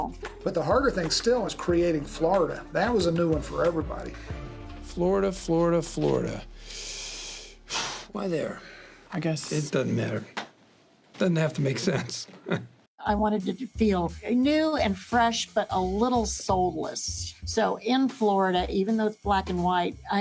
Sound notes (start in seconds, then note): 6.6 sighs; 12.3 chuckles